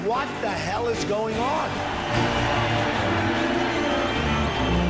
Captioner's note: crowd cheering